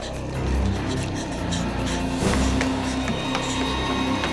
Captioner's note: panting